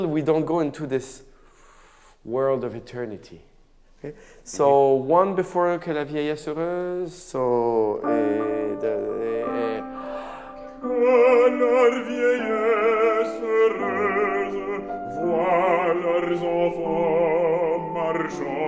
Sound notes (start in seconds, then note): 5.0 speaks in a foreign language; 11.0 sings in a foreign language